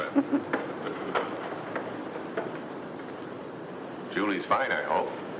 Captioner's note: chuckles; footsteps shuffle